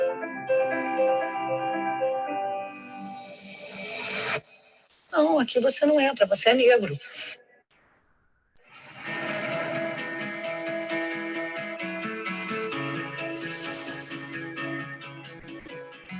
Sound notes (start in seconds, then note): 5.4 news anchor speaking Portuguese; 10.0 upbeat music